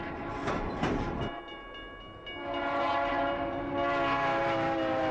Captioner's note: train horn; signal dings, train horn